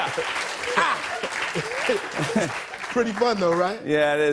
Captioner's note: laughs